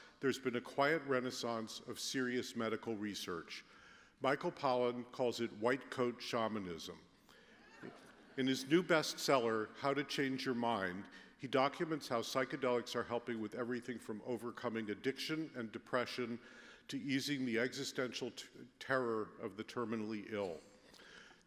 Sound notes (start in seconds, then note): 7.7 laughter